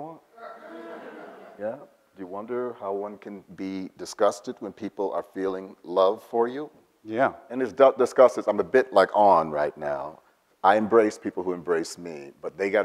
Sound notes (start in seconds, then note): 0.4 audience laughs